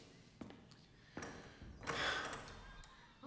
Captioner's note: sighs